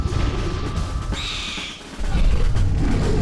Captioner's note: ambient music; bird screech; animal roar